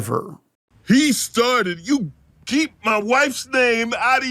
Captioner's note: Gage, slurring